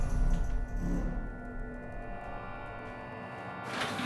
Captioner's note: elevator rumbling